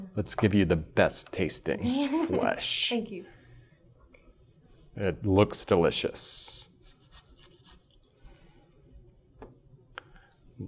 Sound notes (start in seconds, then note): 1.9 giggling